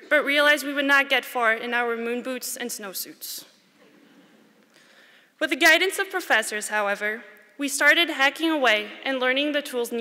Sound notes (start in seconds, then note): none